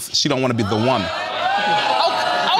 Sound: audience gasping

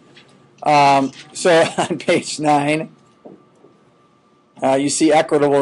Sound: chuckling

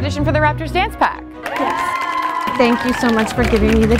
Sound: cheering

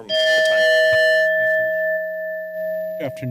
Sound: bell ringing

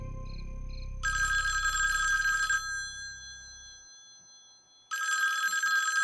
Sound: telephone Ringing

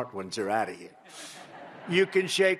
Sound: laughter

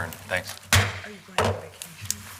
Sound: gavel bangs

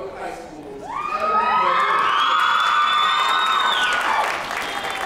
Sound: applause

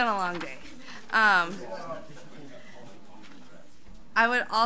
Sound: overlapping chattering

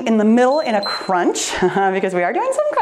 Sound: timer beeps

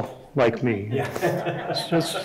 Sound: everyone chuckling

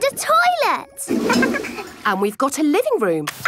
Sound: toilet flush

